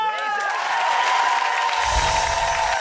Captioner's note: audience cheers; jingling music